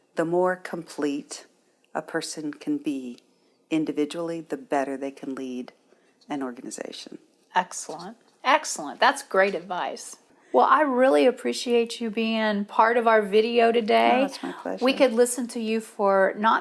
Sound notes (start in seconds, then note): 14.2 pat